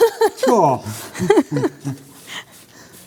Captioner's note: laughing